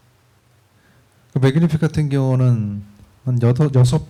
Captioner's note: speaking korean